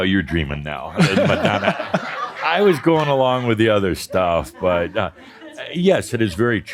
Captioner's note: more laughter; audience chuckling